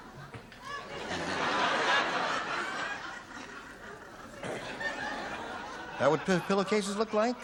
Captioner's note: laughter